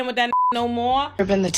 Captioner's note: beep